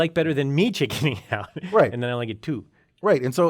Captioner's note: laugh